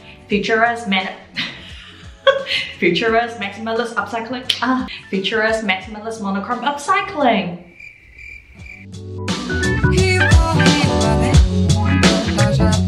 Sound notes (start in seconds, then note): 7.6 crickets